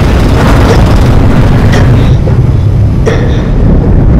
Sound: gasping

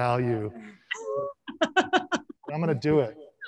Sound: laughs

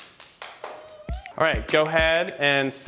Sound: clapping

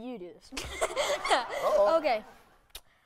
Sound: laughs

